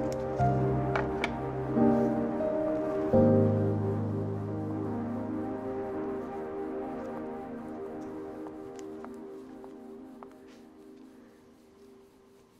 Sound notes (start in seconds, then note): 8.5 footsteps